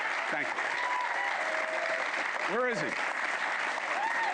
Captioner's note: applause